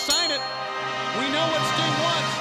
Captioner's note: bell ringing